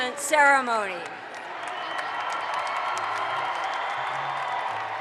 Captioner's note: audience applauds